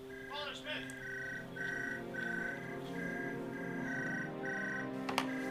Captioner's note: phone ringing